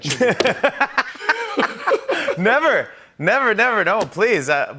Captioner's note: laughs